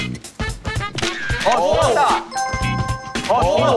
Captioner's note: klik~